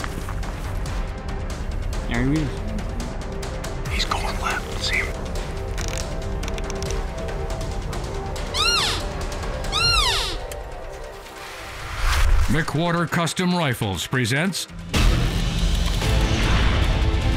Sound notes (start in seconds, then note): 8.4 elk calling; 14.5 intense music